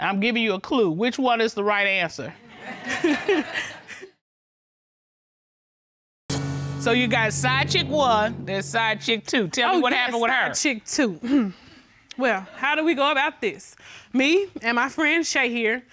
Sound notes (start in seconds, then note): 2.4 laughter; 11.2 clears throat